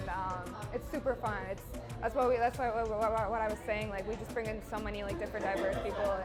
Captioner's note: laughs